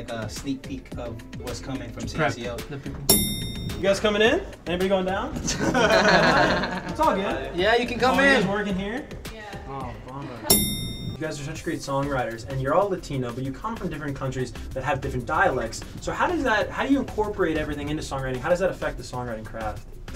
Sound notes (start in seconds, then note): 3.0 elevator dings; 5.4 laughs; 10.5 elevator dings